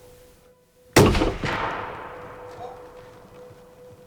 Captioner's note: shot fires